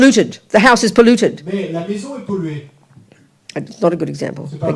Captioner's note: speaking in French